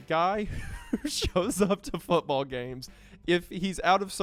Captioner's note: laughs